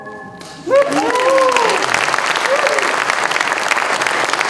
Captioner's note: music ends with a flourish; applause, cheers